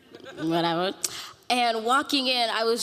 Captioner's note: audience laughing